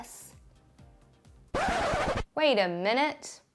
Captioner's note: record screech